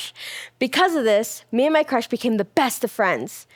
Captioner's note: none